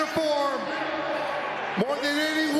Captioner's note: applause